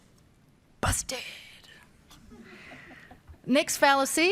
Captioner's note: audience laughs